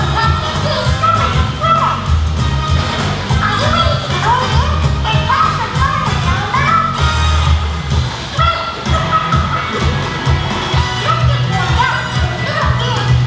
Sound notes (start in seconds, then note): 8.8 laughs